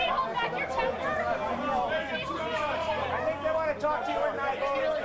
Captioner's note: indistinct shouting